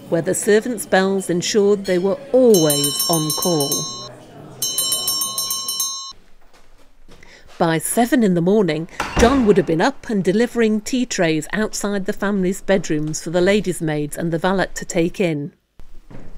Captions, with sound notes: where the Servants' Bells ensured they were always on call. [Ring] [Ring, ring, ring] By seven in the morning, John would have been up and delivering tea trays outside the family's bedrooms for the Ladies' Maids and the Valet to take in.